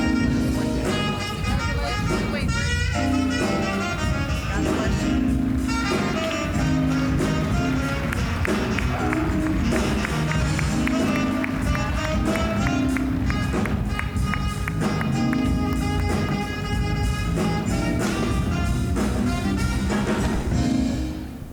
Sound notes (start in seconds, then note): 6.8 smooth jazz music; 6.8 applause; 16.0 smooth jazz music